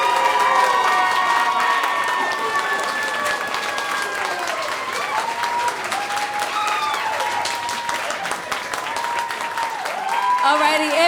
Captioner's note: applause